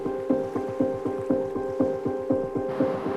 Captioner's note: dramatic music; waves lapping